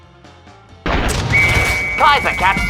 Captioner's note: whistle